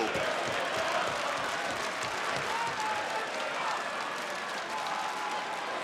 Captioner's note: audience applauds and cheers